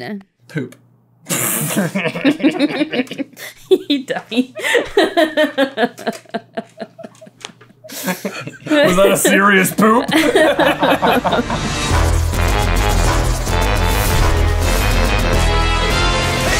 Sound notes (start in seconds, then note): 1.3 laughter; 10.0 laughter; 10.4 intro Theme Music